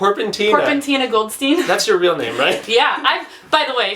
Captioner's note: laughs